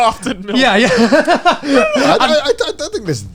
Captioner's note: all laughing